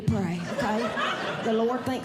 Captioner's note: audience Laughing